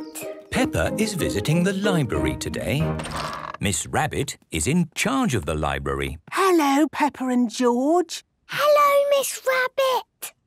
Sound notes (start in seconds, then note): 6.1 whispering